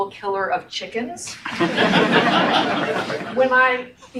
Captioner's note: audience laughs